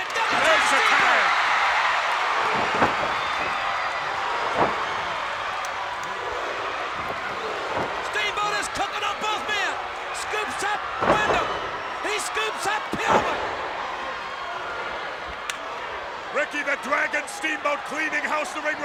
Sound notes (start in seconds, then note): 4.4 audience cheers